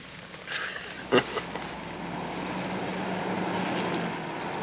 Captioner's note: Casey chuckles